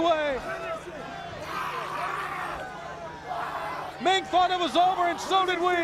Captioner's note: crowd chatter